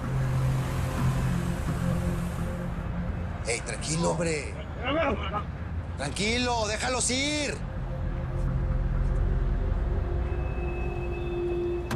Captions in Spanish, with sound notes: [Ruido del vehículo] !HEY, TRANQUILO, HOMBRE! [Habla entre dientes] TRANQUILO, DEJALOS IR.